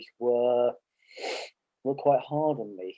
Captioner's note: sniffing